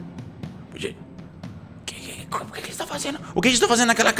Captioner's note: whispering